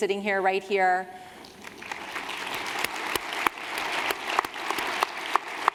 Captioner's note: applause